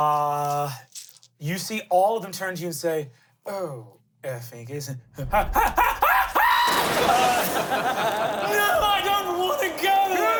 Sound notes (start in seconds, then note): 5.6 yells; 7.4 everyone laughs